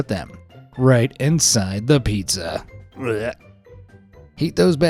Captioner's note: retches